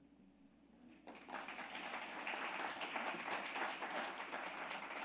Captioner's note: audience claps